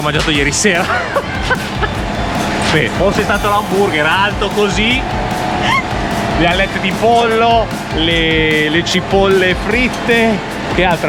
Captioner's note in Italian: risate